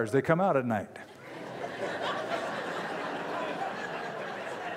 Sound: laughter

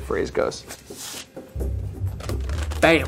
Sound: parchment sliding

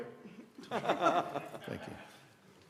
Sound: laughter

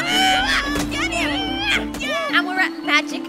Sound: girl grunts

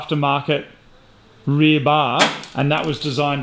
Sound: clatters

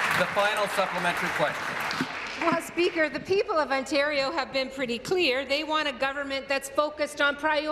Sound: applause

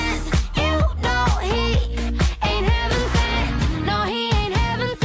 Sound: vocalizes

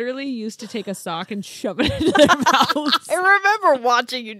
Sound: laughs

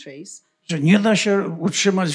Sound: foreign language

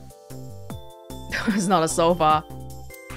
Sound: chuckles

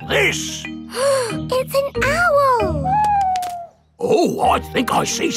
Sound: gasps

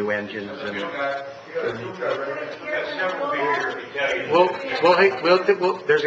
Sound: audience members talking at once

